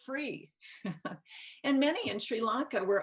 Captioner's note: chuckles